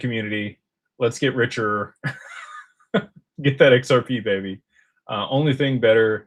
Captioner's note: laughter